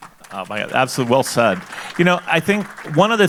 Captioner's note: audience applauding